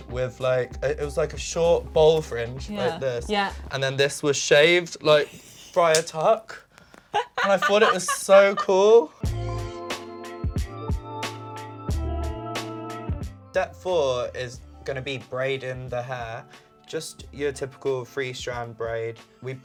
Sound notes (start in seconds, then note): 7.1 laughing; 9.3 upbeat music